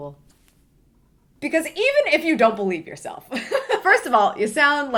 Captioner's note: laughs